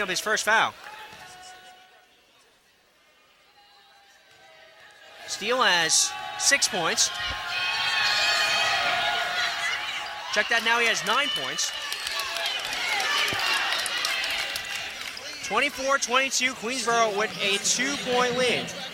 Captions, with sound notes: Matsakov picks up his first foul. Steele has six points, check that, now he has nine points. (cheering) 24-22 Queensborough with a two-point lead.